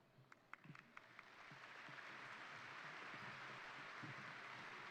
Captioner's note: crowd applauding